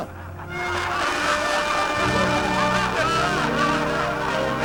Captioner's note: laughter